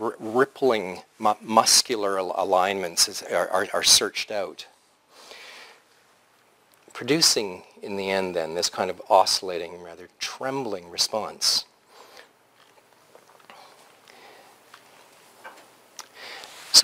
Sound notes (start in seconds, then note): 4.7 pause; 11.8 pause